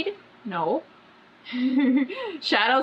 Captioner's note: laughs